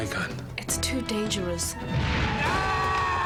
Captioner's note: screaming